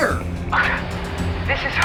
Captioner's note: scoff